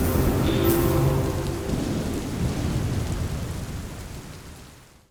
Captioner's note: electrical Noises